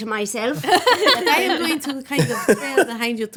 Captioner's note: laughing